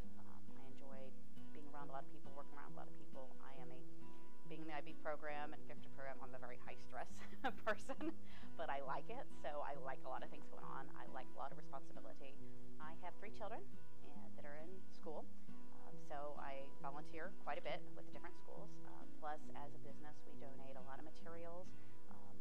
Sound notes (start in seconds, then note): 7.3 laughing